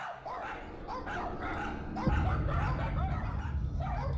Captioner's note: dogs barking